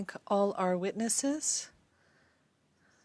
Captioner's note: speaking French